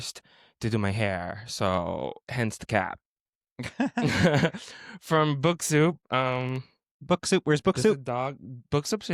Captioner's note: hehehe